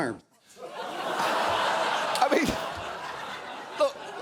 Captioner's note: audience laughing